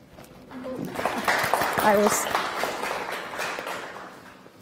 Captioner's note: clapping